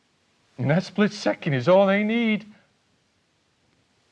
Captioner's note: none